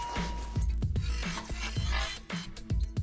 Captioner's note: beep